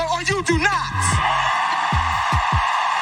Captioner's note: applause